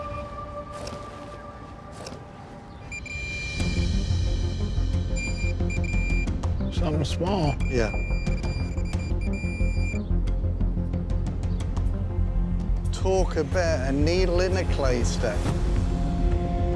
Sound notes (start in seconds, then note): 1.9 beeping; 7.2 beeping